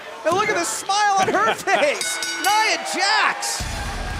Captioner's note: bell ringing